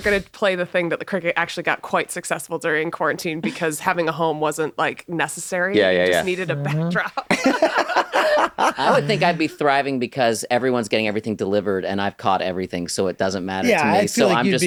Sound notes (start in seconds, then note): 7.2 laughter